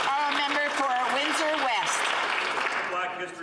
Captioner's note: some Applause